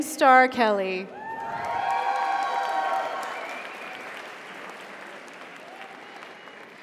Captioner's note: audience cheers; audience applauds